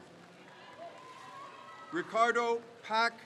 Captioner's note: crowd cheers